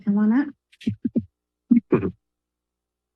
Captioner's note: laugh